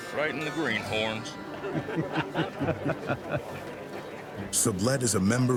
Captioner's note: men laughing